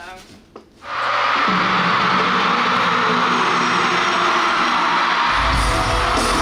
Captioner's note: the show starts with ever louder screams